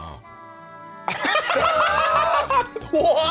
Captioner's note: both laughing